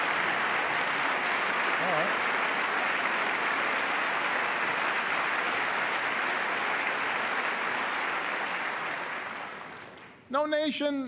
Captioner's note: applause